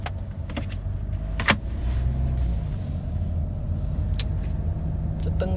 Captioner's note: car go vroom vroom; more car go vroom vroom